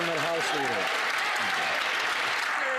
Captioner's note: some Applause